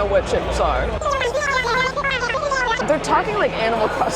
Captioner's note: Animal Crossing speak